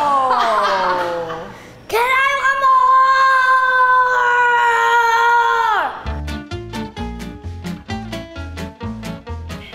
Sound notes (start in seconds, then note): 0.0 laughing; 6.0 upbeat music